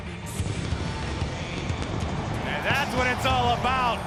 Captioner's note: fireworks rumbling